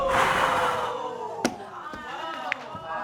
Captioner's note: exhales